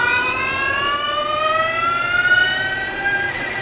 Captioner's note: engine revving